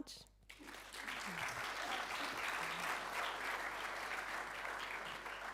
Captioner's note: audience applauding